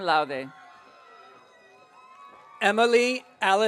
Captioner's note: audience cheering